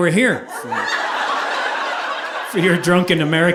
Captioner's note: audience laughing